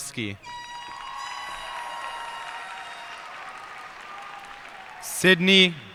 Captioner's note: cheers and applause